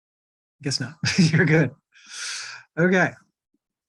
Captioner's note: chuckles